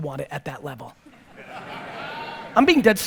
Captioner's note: audience laughter